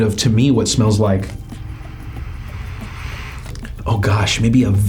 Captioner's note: inhales